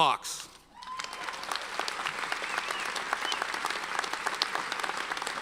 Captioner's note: audience cheers and applauds